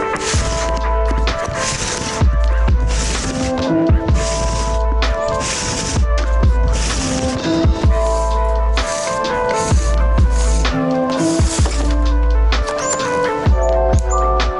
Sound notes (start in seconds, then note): 0.7 cable whirring